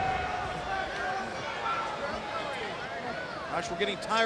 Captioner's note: wrestlers thud; crowd chattering